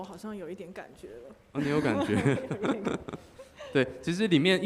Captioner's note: laughing